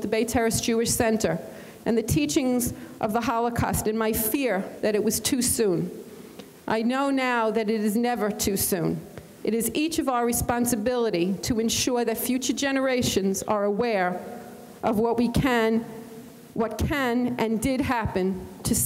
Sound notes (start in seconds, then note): none